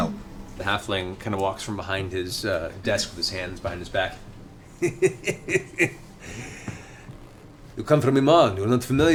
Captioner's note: laughs